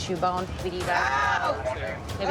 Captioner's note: screams